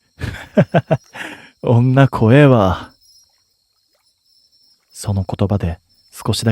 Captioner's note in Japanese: 笑い